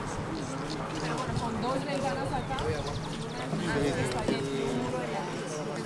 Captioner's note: speaking Spanish